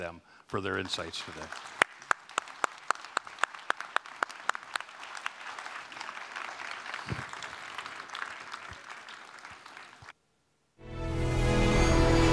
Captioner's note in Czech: Potlesk